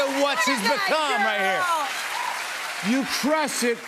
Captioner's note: cheers and applause